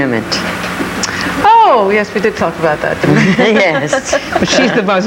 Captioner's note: chuckles